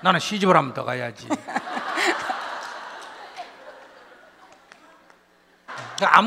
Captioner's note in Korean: 질문자와 청중 웃음